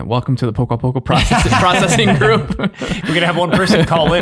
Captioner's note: all laughing